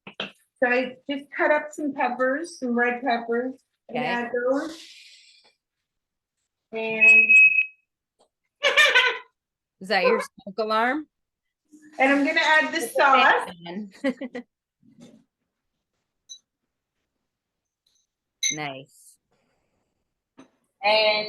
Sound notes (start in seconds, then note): 6.9 alarm beeps; 8.6 laughs; 13.9 laughs